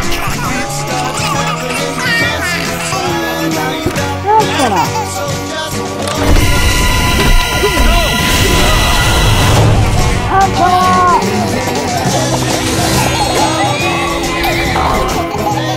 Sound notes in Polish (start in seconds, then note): 8.3 Krzyk Medyka